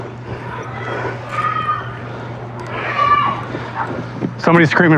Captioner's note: scrcreamimingng